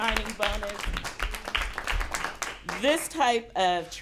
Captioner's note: applause